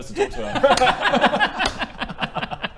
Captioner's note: mocking giggles